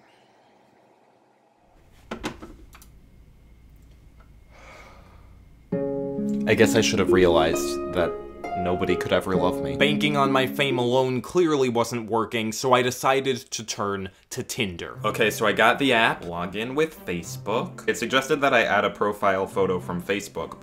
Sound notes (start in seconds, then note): 4.5 sigh; 5.6 sad music